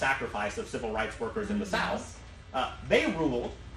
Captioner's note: none